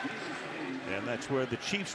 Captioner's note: pa announcement